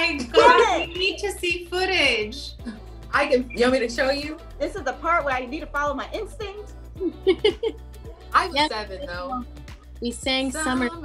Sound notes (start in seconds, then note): 7.0 Yara laughs